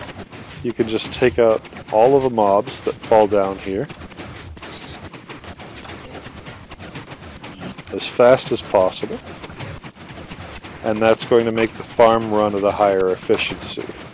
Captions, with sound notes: you could just take out all of the mobs that fall down here. [pigman squeals, blaze clinks, pistons continue] as fast as possible and that's going to make the farm run at a higher effieciency.